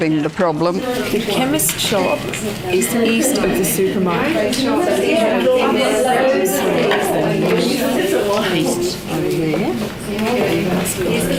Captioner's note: audience chatter